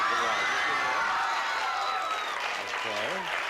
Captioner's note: cheering